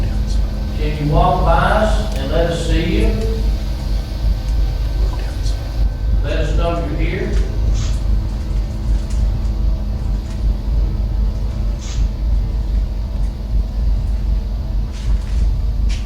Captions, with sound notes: Can you walk by us and let us see you? (ghostly voice) Let us know you're here.